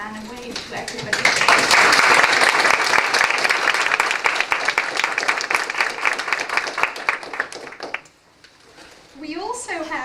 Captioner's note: applause